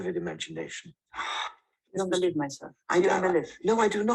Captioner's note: sigh